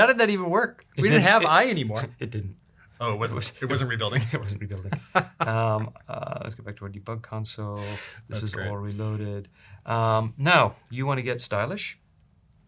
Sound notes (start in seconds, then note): 4.1 laughter